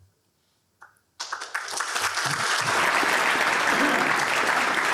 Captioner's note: applause